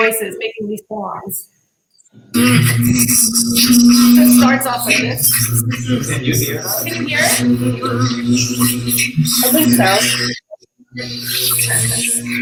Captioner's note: recording plays